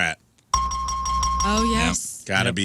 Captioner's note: bell Ringing